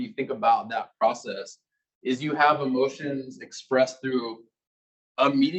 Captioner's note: male Voice